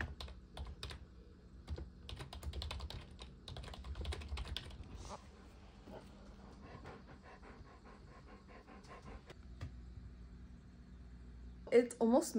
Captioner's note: typing